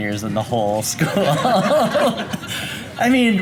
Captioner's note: laughter